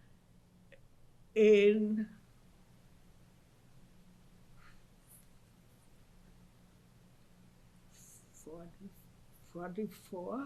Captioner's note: pauses for 7 seconds